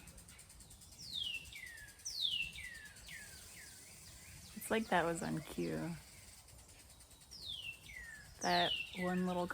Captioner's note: one loud bird chirping